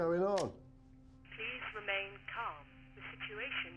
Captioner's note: intercom